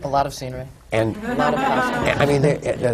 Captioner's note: laughter